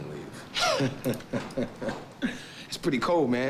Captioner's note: Jeremy laughs